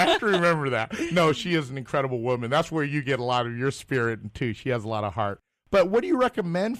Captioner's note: laugh